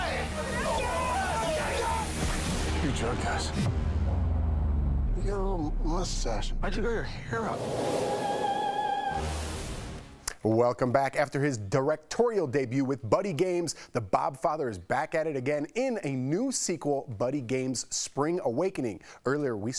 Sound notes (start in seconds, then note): 5.3 yelling